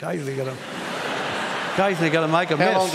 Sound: laughter

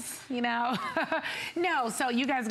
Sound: laughter

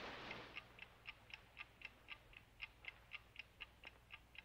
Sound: clock ticking

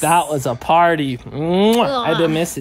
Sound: kissing

